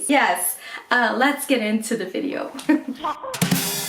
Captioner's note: laughs